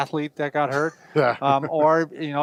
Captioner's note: laughs